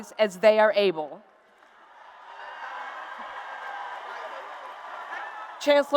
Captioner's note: applause and Cheers